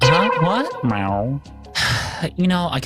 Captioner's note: meow